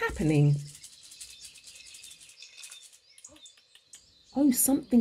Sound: teapot rattling

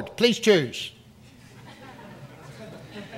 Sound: audience laughs

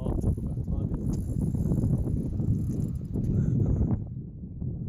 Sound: wind rumbling

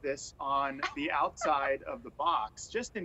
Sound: laughter

